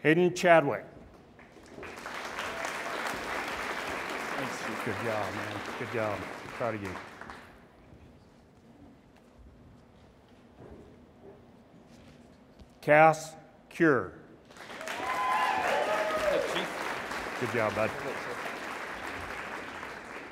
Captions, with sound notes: Hayden Chadwick. (audience applauds) - Thanks, Chief. - Good job, man. Good job, proud of you. Cass Cure. (audience applauds and cheers) - Hello, Chief. - Good job, bud. - Thanks, sir.